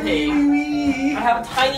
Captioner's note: weeping in the background